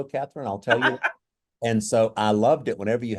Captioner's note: laughter